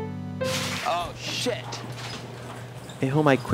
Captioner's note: crashing